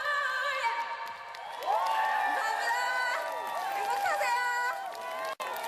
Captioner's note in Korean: 박수 갈채